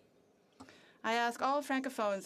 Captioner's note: speaking French